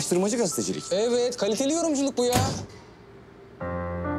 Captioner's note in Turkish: Kapıyı çarptı